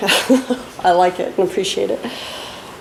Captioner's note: laughs